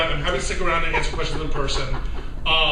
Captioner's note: laughter